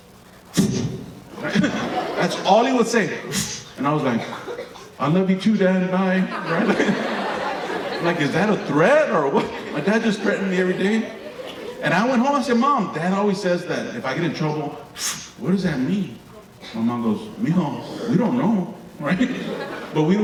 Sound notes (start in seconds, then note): 0.2 slicing noise; 3.3 slicing noise; 6.1 audience laughing; 15.0 slicing noise